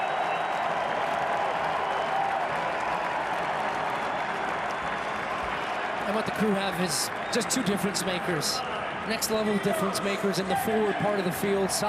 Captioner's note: applause